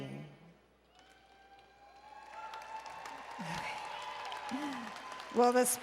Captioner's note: applause and Cheering